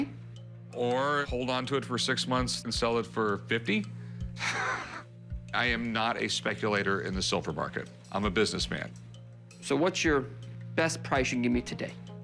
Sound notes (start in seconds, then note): 4.4 laughs